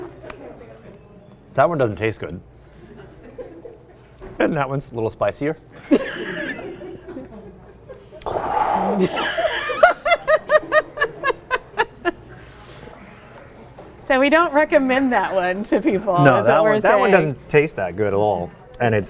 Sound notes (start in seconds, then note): 9.0 laughing